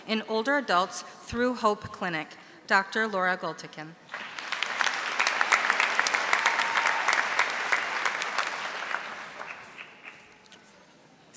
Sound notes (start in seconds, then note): 4.1 audience applauding